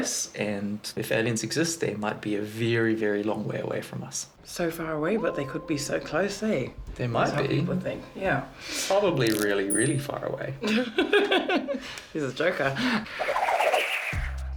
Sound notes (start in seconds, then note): 10.6 laughs